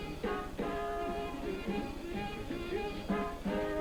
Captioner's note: hums along